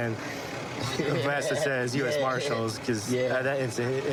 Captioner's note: laughing